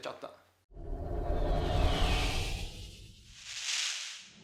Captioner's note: speaking foreign language; whooshing; electric crackling